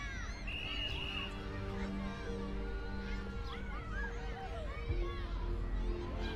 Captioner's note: children shouting; whistle tweets